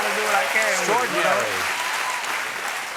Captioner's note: cheers and applause